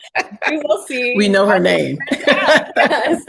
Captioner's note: laughs